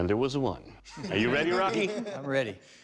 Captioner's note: laughter